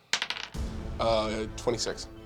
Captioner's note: dice bouncing